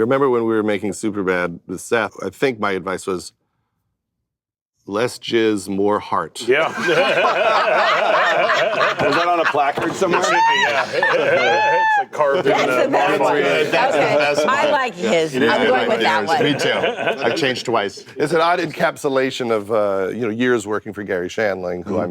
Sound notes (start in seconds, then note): 6.5 laughter; 12.5 chatter